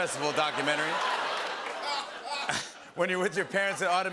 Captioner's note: laughter